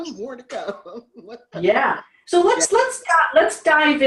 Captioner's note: laughs